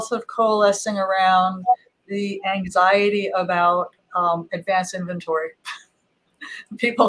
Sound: laughs

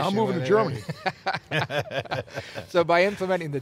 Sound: laughs

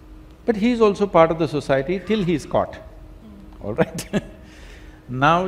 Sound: laughs

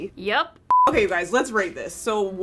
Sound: beep

